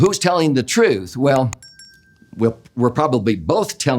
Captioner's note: bell ringing